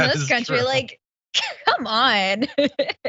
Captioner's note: laugh